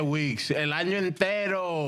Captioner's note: speaking In Spanish